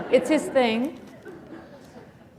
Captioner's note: laughter